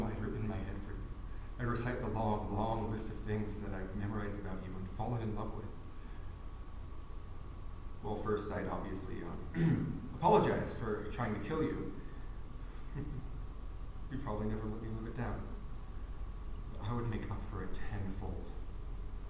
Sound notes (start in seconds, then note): 9.5 clears throat; 12.8 chuckles